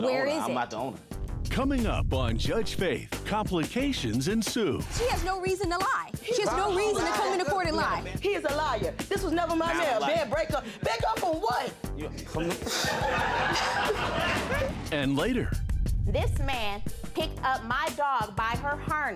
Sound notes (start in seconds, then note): 12.6 audience laughs; 12.8 scoffs